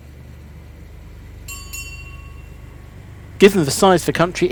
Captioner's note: city train bell rings